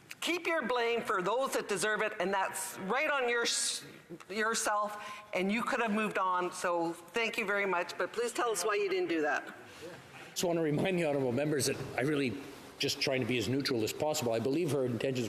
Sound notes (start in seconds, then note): none